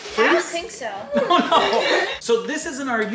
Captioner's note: laughs